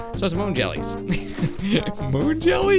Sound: laughs

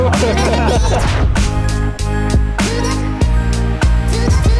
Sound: all laughing; swoosh

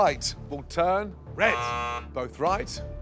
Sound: buzzing

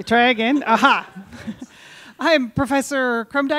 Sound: audience laughing

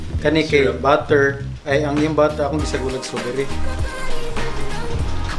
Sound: speaks in foreign language

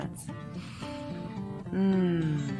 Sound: sniffs

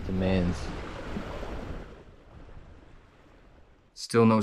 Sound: waves breaking

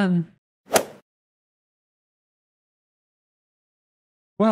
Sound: golf ball hit sound effect

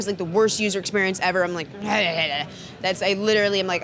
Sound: groans

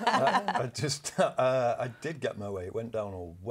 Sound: laugh

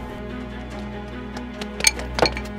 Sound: footsteps

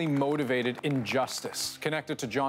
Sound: applause

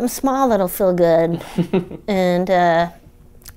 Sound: laughter

